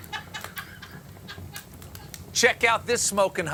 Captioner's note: laughter